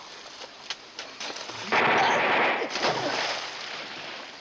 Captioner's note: groaning; gunfire